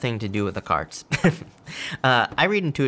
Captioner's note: laughs